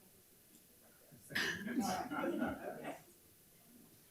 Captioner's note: speaks faintly; members laughing